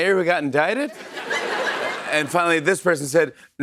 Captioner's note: laughter